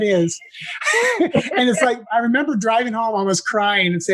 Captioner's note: laugh